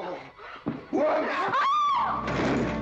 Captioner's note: ladies scream; tumbling down stairs